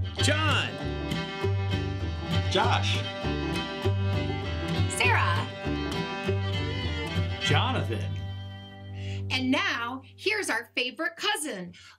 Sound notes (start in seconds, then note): none